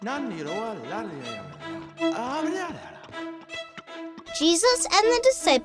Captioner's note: foreign language